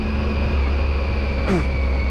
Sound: spits

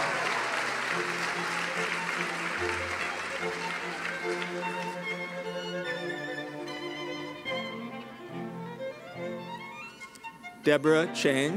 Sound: cheering and applause

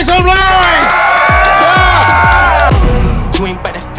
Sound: sound of cheering

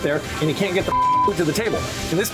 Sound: beeping

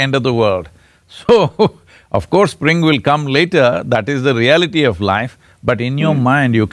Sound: laughs

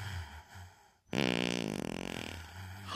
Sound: fart sound

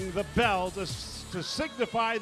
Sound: cheers and applause

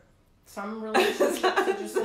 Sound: laughing

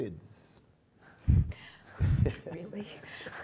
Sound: laughing

